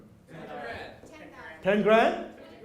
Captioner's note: audience speaking